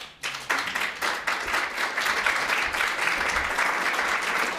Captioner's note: attendees clapping